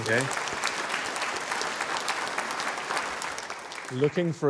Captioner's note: applause